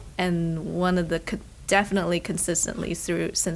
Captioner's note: none